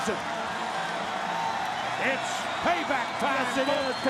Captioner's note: applause